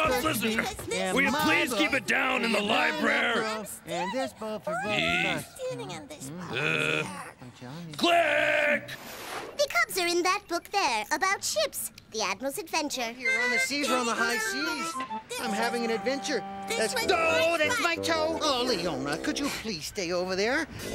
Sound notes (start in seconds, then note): 2.7 cubs still arguing in distance